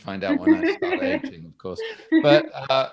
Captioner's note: chuckles